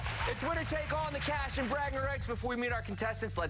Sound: cheers and applause

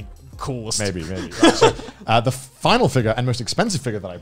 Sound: laughs

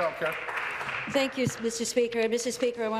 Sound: applause

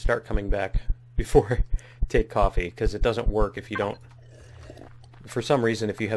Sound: sips coffee

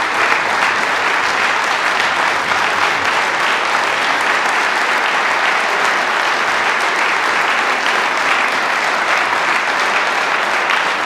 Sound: applause

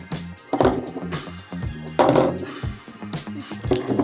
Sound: laughs

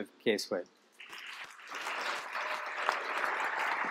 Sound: applause

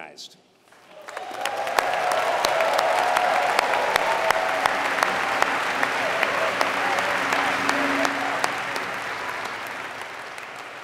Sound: applause

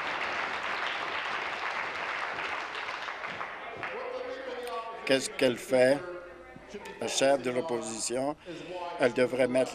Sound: applause

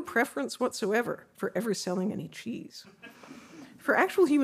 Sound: audience laughing

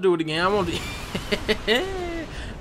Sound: laughs

